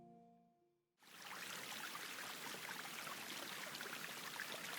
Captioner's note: water gurgles